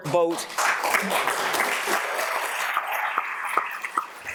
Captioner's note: audience applauds